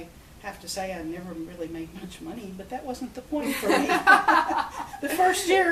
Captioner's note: both laugh